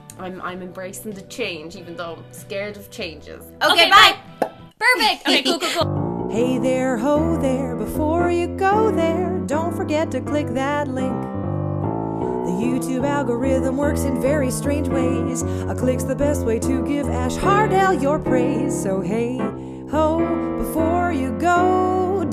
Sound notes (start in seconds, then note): 4.4 pop; 5.0 outro music